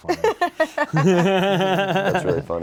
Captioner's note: all laughing